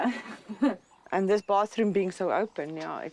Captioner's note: laughs